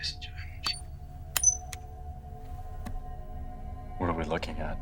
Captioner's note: finger taps